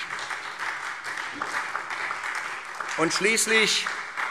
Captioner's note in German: Beifall SPD